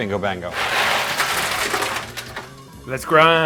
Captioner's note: ice clanking